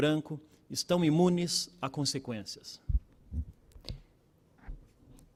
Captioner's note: speaking Portugese